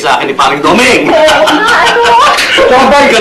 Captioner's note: chuckles